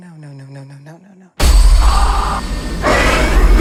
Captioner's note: loud jump scare noises